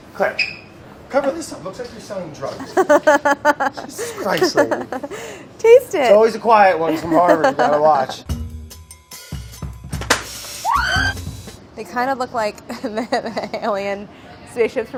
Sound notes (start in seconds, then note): 2.6 laughing; 7.1 light upbeat music; 10.6 screaming